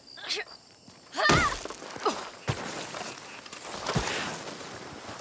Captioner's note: woman yelling